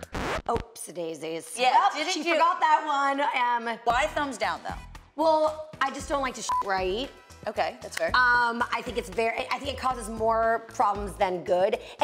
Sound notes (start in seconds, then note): 6.4 beep